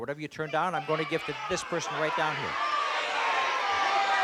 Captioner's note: crowd exclaiming